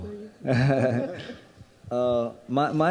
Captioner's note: laughing